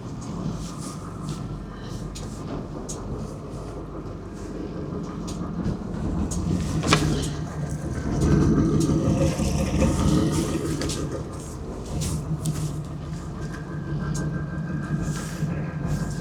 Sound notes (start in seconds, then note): 4.0 engine revving